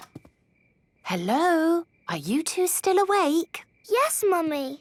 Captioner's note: whisper